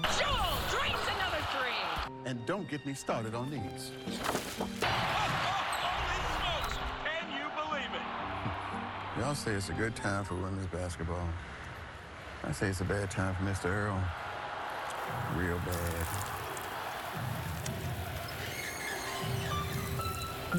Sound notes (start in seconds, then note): 16.8 crowd cheering; 19.2 chair scratching